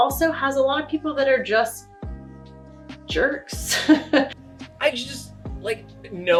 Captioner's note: laughs